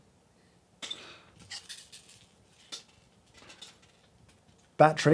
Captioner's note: parts cluttering